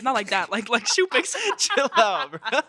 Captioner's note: both chuckling